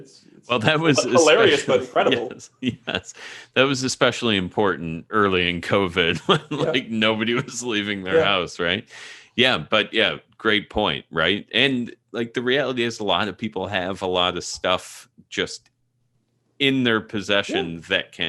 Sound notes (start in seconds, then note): 2.3 laughs; 6.1 chuckling